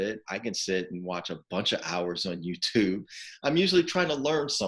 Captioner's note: chuckling